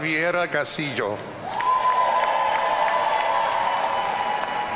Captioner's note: audience cheering